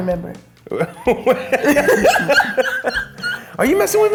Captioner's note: laughing